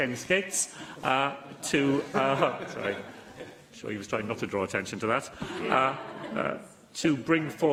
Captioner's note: laughter